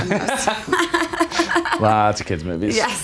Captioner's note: Justin and Kate laughing